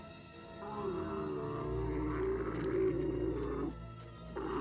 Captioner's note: camel groaning